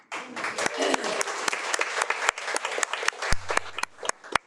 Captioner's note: attendees applaud